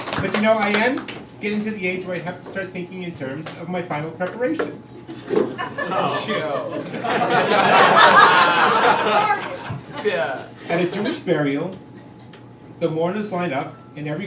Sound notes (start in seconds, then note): 5.2 crowd laughing